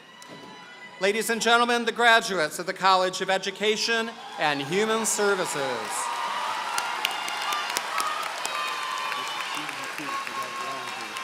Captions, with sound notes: Ladies and gentlemen, the graduates of the College of Education and Human Services. [APPLAUSE]